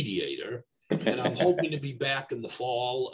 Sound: laughs

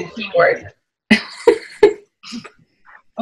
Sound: chuckling

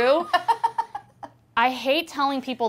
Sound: laughing

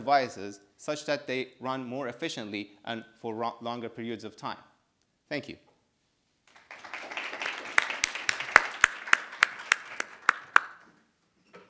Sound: audience applauding

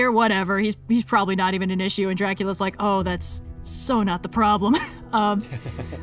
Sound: laughs

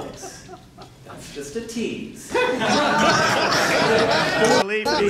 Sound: laughter

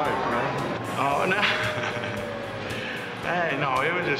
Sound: laughs

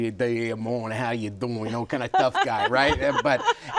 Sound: speaking fake Italian; laughs

